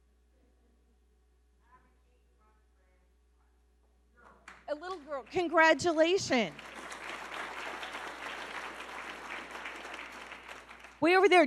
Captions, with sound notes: (audience member shouting) A little girl, congratulations! (audience clapping)